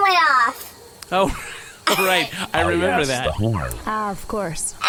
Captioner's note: laughs